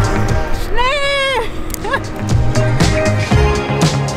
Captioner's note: laughing